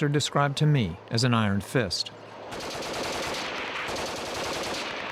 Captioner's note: gunfire